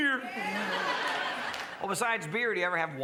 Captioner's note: crowd laughs and cheers